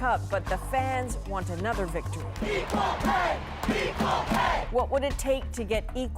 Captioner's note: cheers and Applause